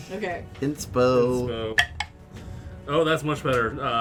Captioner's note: in a sing-song voice; tiny die clicks on wood